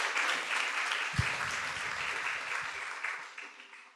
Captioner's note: clapping